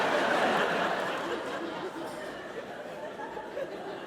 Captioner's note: audience laughs